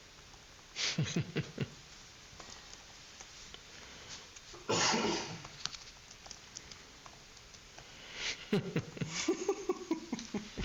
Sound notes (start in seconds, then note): 0.0 laughing; 3.2 keyboard clicking; 5.3 laughing